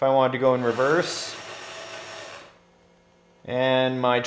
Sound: RC truck whirring

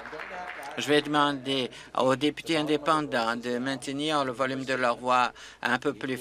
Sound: applause

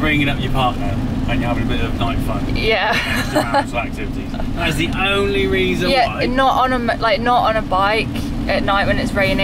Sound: laughing

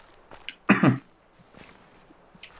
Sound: coughs

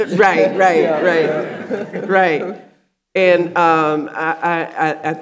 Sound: audience laughing

